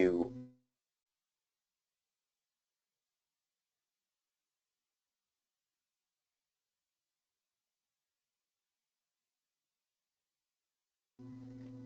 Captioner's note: lost mic connection